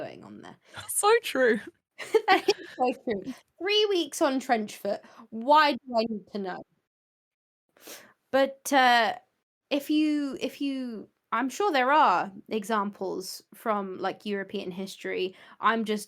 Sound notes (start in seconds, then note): 2.1 laughs